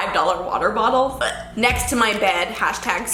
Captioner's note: gags